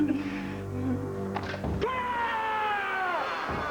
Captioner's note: giggling; karate yells